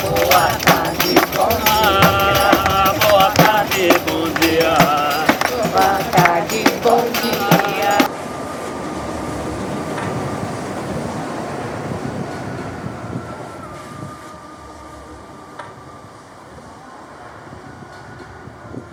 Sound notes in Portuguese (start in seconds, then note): 9.9 barulho de trem